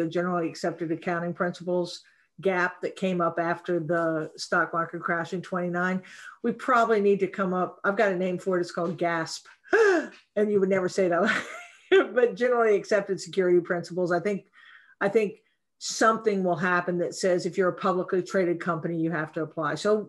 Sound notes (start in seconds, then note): 9.6 gasps; 11.3 chuckles